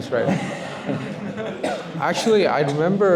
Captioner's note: laughter